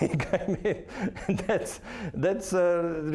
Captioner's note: laughing